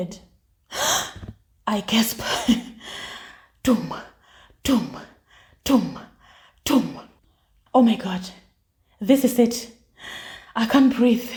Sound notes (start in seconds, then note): 0.0 gasps; 4.7 heartbeat